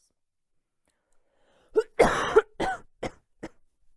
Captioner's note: coughing